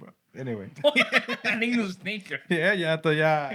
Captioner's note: non-english Speech; laughter